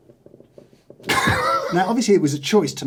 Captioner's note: laughs